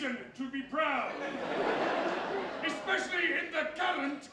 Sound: audience laughter

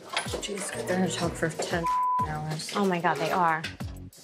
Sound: beep

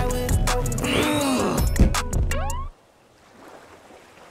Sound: groan

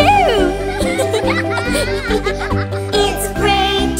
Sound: laughter; singing

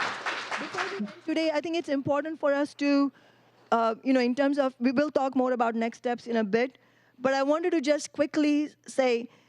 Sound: applause; cheering

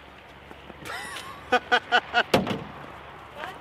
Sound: laughing

